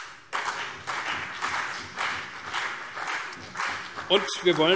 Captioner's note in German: Beifall CDU und BÜNDNIS 90/DIE GRÜNEN